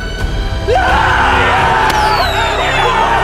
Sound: cheering

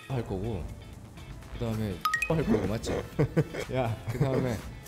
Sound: embarrassed laughter

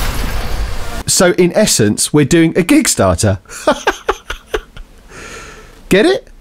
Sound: laughs

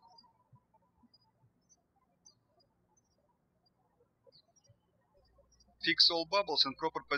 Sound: birds chirping

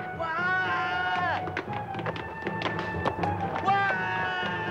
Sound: Leon screaming

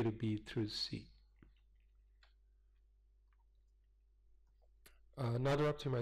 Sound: pause

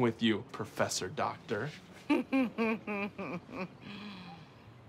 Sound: laughs

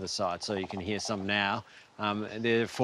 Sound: frogs croak

